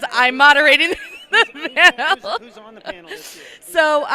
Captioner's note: laugh